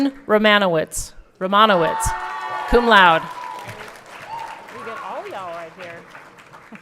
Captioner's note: everyone cheering